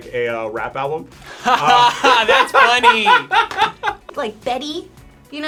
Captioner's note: laughs